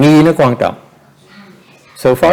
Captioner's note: background chattering